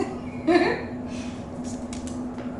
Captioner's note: laughter